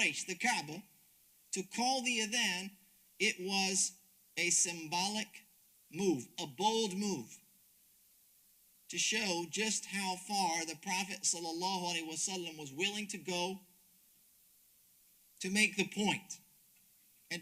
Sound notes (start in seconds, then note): 10.1 speaks Arabic